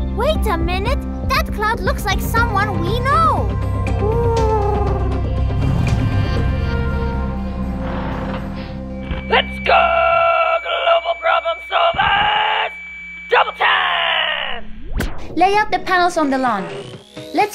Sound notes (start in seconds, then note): 3.9 hoot; 7.0 engine rumble